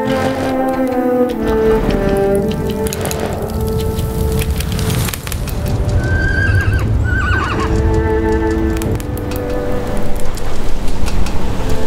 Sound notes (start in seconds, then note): 2.7 horse snorts; 5.6 horses whinny